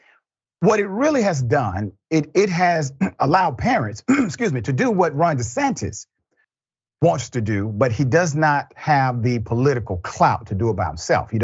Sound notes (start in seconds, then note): 2.9 cough